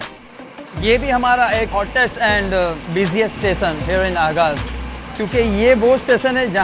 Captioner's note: speaks in foreign language